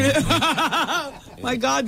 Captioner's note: laughs